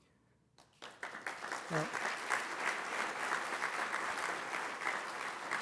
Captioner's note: applause